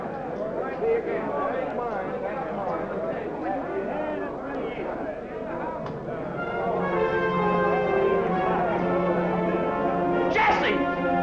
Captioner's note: chatter; dramatic music